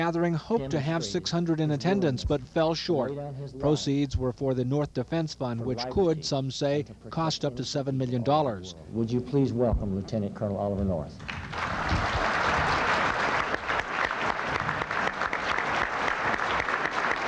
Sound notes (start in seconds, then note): 11.2 crowd applauds